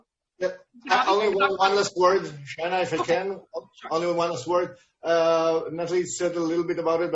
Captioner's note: speaking in a foreign language